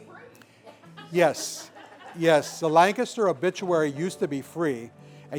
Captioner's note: laughter